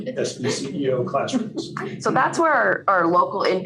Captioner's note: laughter